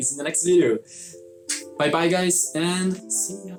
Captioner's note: kisses